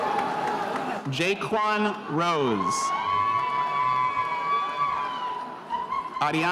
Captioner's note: spectators cheering